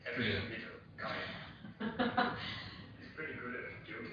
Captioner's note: laughter